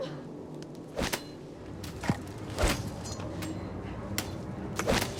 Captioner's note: metal slicing